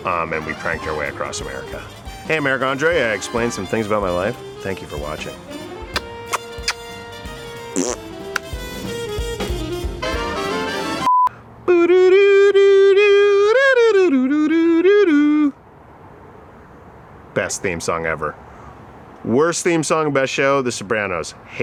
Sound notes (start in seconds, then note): 5.9 kisses and blows raspberry; 7.3 upbeat music